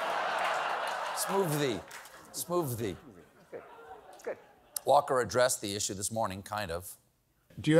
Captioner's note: laughter